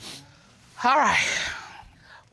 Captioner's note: Judge Dana sighs